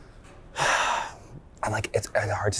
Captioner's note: sighs